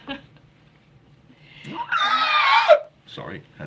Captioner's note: screaming